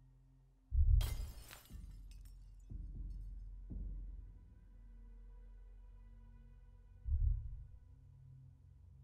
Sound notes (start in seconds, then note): 1.0 glass breaks; 2.6 ominous music